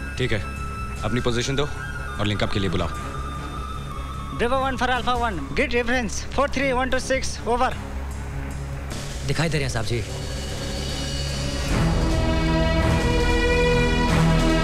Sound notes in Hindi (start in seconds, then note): none